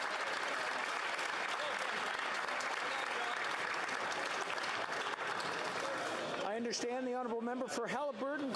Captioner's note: some Applause